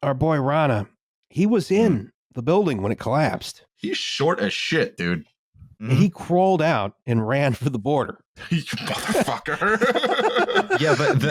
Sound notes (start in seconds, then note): 8.4 laughs; 8.4 laughter